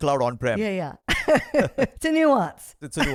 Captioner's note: laughs